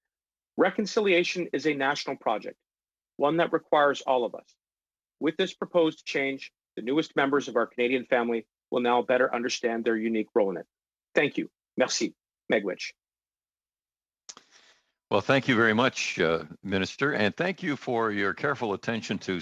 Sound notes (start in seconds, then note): 18.0 speaking Alternate Language